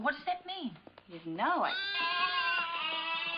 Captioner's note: sheep bleating